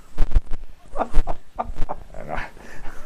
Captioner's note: laughter